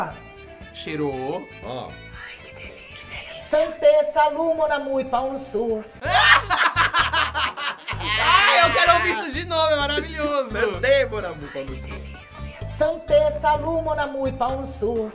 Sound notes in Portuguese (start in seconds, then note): 2.2 Inês sussurra; 6.0 risos; 11.7 Inês sussurra